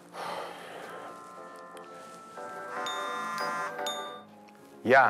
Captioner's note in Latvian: zvana telefons